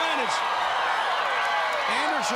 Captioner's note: crowd cheering